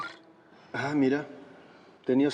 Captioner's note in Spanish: Suena el celular